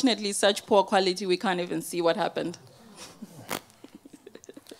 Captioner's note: laughs